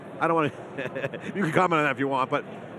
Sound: laughs

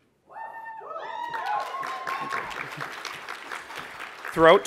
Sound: applause

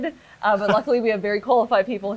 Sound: laughs

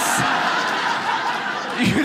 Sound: audience laughs

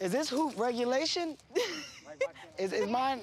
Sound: laughs

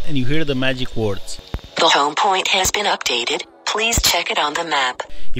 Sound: phone

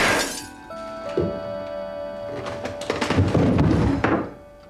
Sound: gunshot bangs; mirror shatters

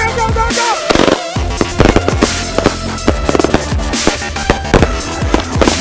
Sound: fireworks exploding; festive music

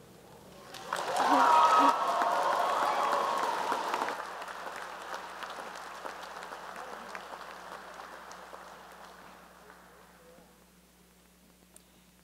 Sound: cheering and applause

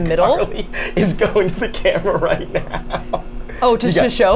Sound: laughs

